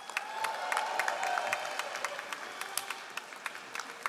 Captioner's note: all applauding